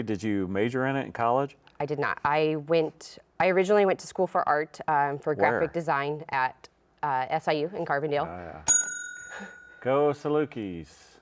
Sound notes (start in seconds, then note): 8.6 bell rings